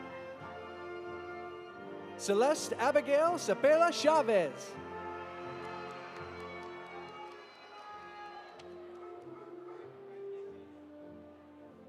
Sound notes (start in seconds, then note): 4.9 audience applauding; 5.0 audience cheering